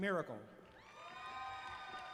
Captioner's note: applause